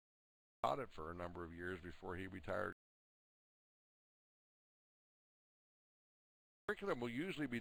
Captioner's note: audio drops